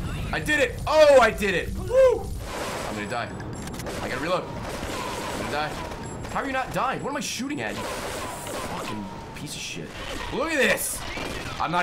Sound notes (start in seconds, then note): none